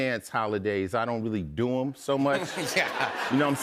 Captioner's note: chuckles